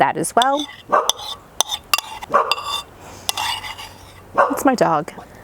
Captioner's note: dog barking